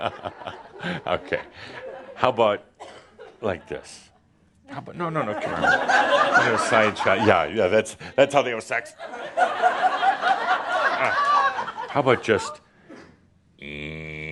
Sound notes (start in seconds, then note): 1.3 more laughter; 9.0 laughter; 11.9 laughter as he acts it out